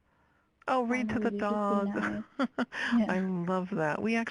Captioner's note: laughing